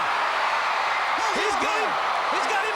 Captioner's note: crowd cheering